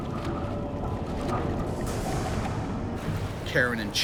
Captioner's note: muffled swishing and splashing